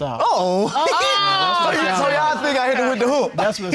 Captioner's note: laughs